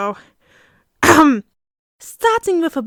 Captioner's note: cough